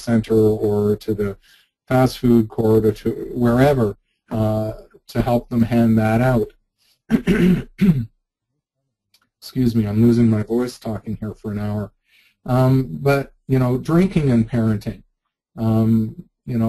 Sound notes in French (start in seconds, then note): 7.1 se dégage la gorge